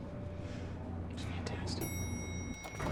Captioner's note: quietly